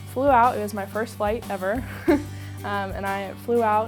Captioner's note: laughs